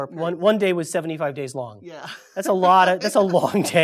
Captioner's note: laugh